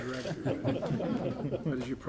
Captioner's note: laughter